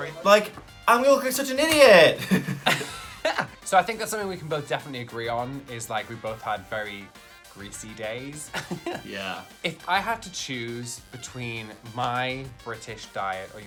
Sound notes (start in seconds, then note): 2.0 both laughing; 8.5 laughs